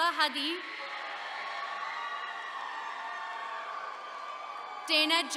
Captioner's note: attendees cheering